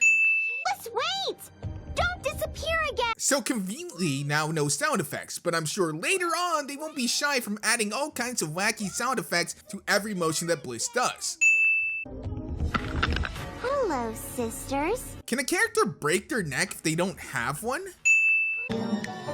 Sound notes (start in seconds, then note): 12.8 cracking